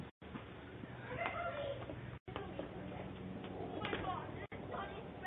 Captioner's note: kids chattering